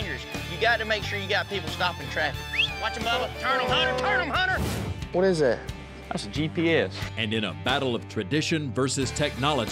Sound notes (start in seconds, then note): 2.4 whistling; 2.4 horns honking